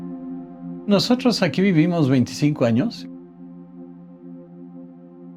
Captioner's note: continues in Spanish